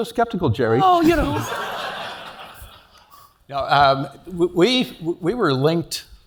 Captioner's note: laugh